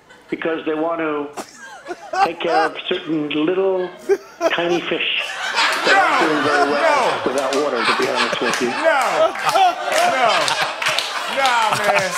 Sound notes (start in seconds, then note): 1.3 laughter; 5.4 laughter intensifies; 9.4 applause; 9.4 laughter